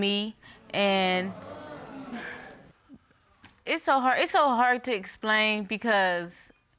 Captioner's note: audience exclaiming